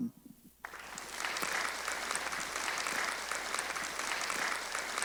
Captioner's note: applause